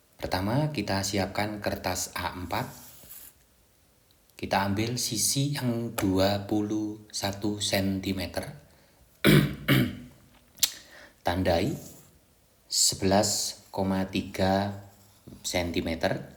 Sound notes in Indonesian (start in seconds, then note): 9.2 batuk; 9.2 berdehem